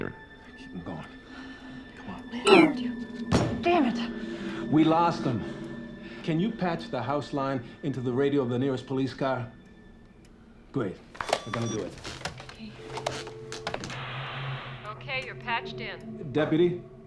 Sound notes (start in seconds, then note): 3.3 pounds table; 11.1 line disconnects; 11.2 line ringing; 14.8 on speakerphone